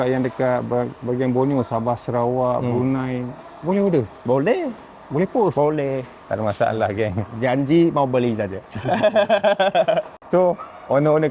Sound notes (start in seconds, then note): 8.7 laughs